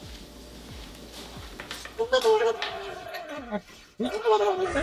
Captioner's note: woman mumbling